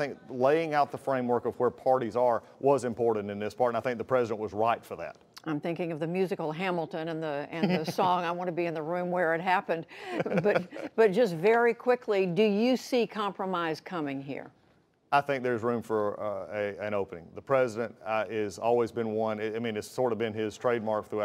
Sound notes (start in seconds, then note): 10.0 laughter